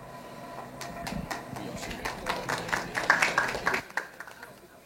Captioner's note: applause